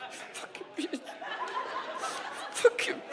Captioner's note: audience laughs; cries